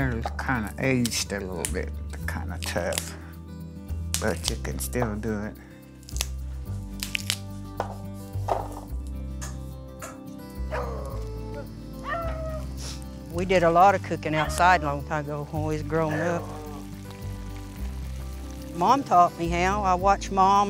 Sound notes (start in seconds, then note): 6.7 beans snapping apart; 10.6 dogs howling